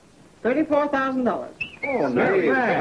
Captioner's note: son whistling